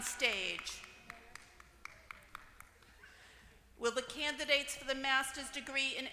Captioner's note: applause